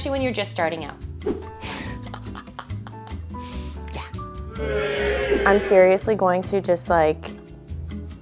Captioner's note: laughs